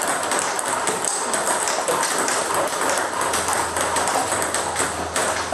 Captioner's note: balls ping pong hitting continues